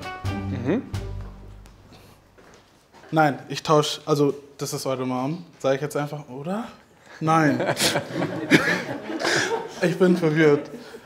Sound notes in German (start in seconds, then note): 7.4 Alle lachen